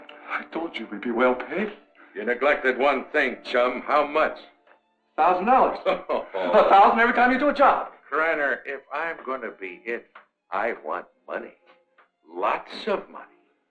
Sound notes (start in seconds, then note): 5.8 Faust laughs